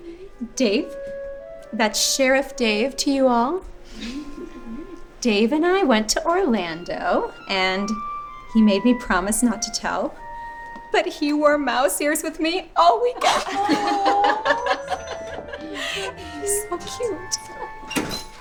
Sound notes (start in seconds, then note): 13.2 girls giggling